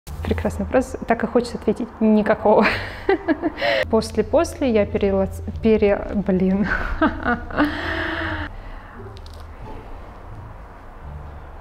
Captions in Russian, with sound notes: прекрасный вопрос так и хочется ответить никакого после после я пере... пере... блин (смеется)